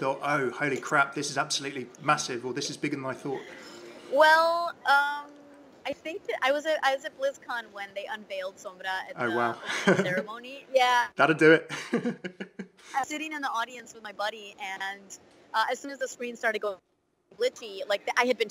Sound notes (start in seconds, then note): 9.2 laughs; 11.6 laughs